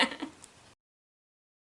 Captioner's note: laughs